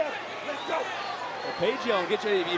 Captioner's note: yelling